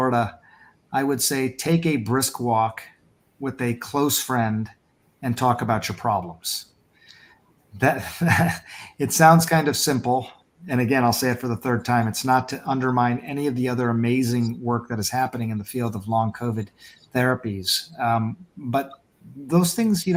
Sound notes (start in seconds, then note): 7.9 laughs